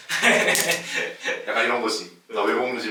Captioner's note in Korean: 오 잡음